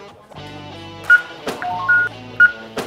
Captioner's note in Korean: 코인 획득 효과음; 기계 알림음